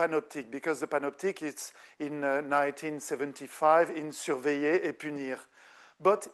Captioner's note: speaking French